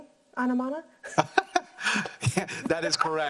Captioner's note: laughs